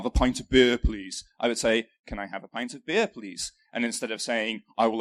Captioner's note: northern England accent; london accent